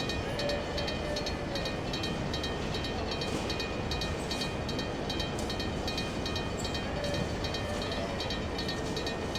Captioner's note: railroad crossing ringing in the distance